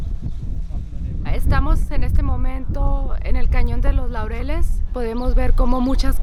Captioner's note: speaking in foreign language